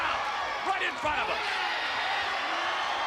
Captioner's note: spectators cheering